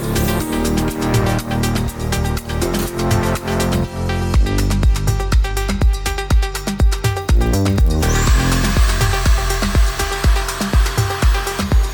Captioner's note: glassy sound